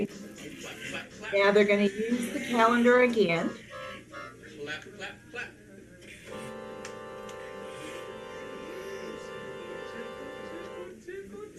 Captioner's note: background talking